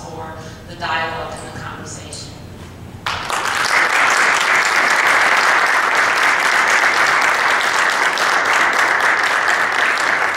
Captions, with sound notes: for the dialog and the conversation. (applause)